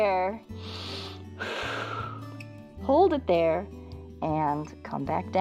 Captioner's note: inhales and exhales